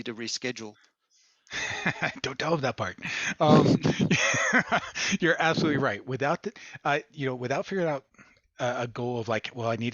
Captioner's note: laughter